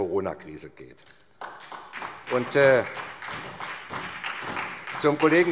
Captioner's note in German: Beifall